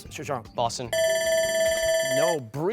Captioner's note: bell ringing